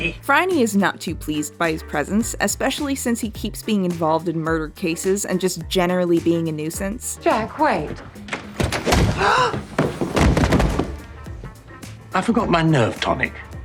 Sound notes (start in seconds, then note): 8.0 door opening; 8.7 A Thump and Phryne gasps